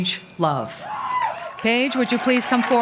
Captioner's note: applause